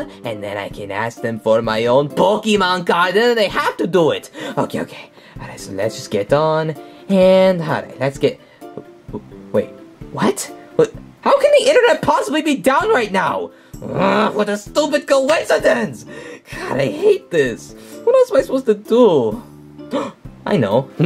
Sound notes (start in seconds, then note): 13.8 growls; 19.8 gasps